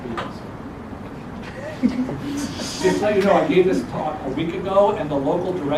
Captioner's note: laugh